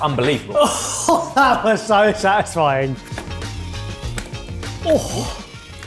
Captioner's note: laughing; upbeat music